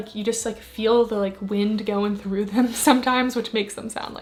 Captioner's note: giggles